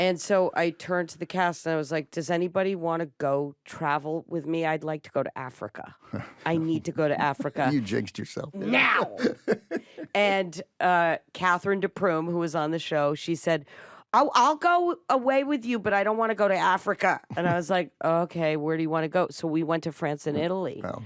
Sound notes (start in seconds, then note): 6.1 chuckles; 8.6 laughs